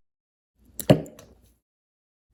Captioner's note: plunk!